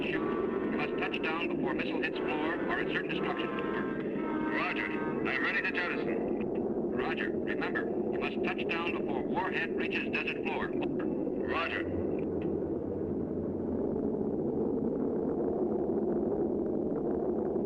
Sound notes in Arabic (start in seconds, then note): 12.3 همهمة الطائرة يستمر المحرك